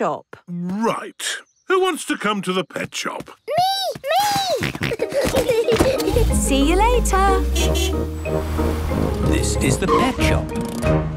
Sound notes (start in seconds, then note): 4.1 kids giggling; 4.1 snorting; 6.8 honking